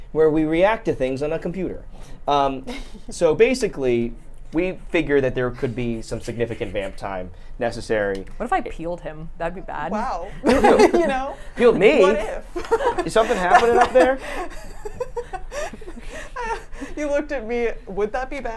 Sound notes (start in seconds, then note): 11.0 laughs; 13.0 laughs; 16.2 laughs